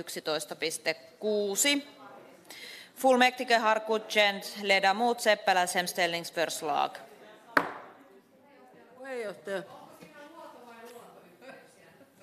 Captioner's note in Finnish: nuijan kopautus